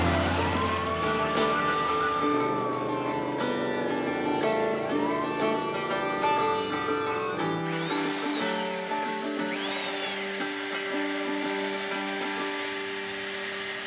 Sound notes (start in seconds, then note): 7.8 drilling